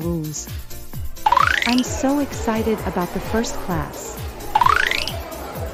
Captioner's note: cartoon Iris Sound; cartoon Iris Sound